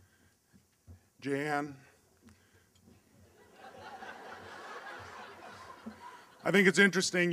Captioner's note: laughter